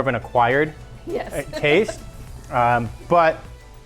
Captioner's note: laughs